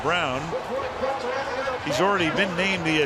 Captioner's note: pa announcement